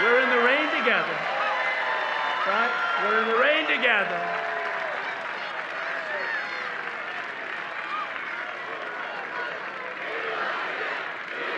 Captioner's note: applause